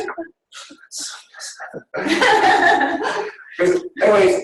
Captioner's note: laughing